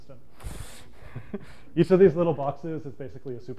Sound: giggles

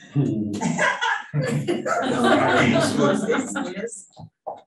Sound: panelists laughing

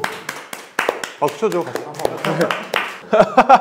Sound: haha

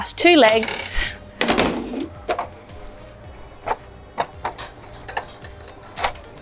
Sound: camp table thuds; camp table legs squeaking

